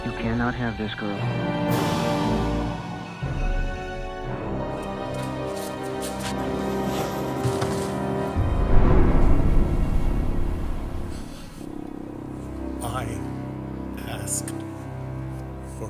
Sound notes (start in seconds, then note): 3.2 dramatic music; 8.4 waves rumbling